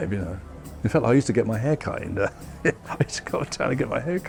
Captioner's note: chuckles